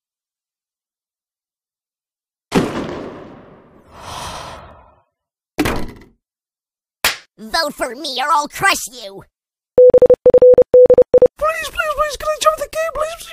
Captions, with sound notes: *exhale* Vote for me or ill crush you!!! please please, can i join the game please please?